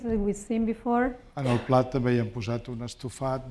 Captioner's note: speaking spanish